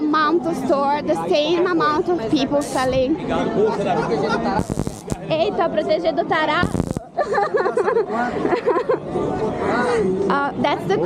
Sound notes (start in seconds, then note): 2.6 laughter